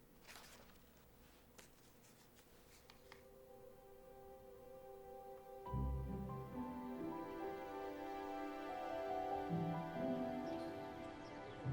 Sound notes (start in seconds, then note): 1.9 gentle music; 3.4 birds chirping